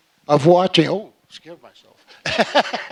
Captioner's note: laughing